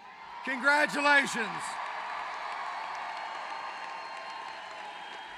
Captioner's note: applause